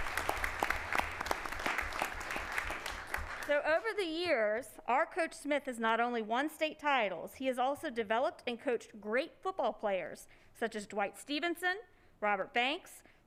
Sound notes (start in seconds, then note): 2.1 applause